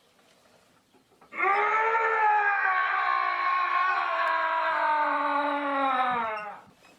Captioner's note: Keith screaming